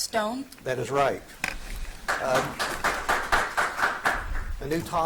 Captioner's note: audience applauds